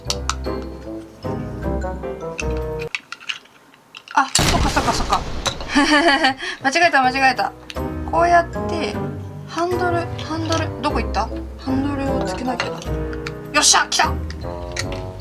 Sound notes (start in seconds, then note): 5.5 laugh